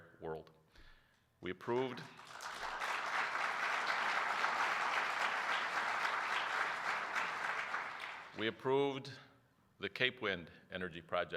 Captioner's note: applause